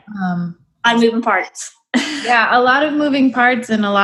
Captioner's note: giggles